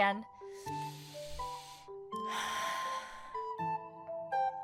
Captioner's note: amanda inhales/exhales deeply